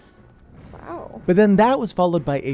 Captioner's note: yelling